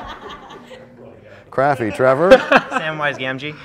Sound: laughter

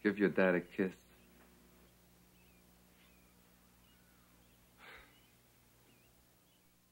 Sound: laughs

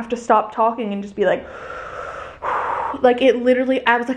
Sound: breathes deeply

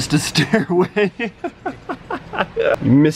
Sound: laughing

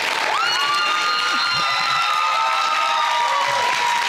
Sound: audience hooting

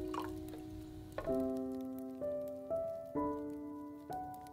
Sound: fire crackling

